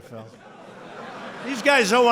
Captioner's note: laughter